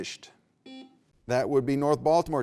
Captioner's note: beep